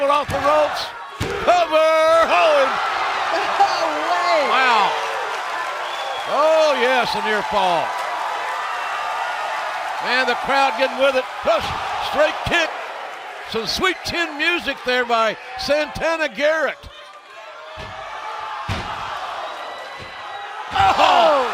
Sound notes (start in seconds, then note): 10.0 cheers and applause